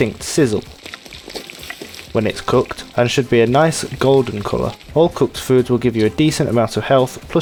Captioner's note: sizzle